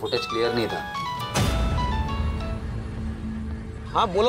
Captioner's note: phone ringing